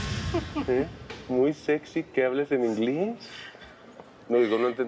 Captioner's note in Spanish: risas